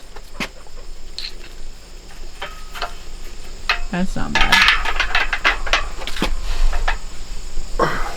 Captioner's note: clanking